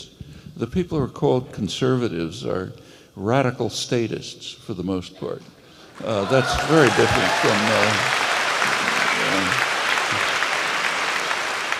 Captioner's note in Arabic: تصفيق